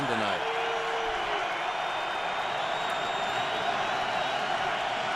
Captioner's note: cheering